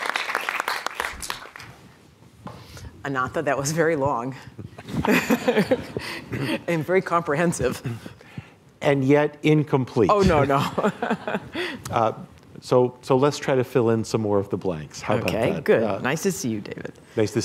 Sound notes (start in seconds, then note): 4.8 laughter